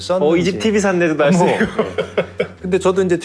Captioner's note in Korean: 웃음